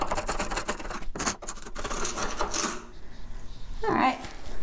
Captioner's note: chisel scraping